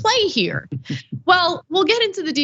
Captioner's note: laugh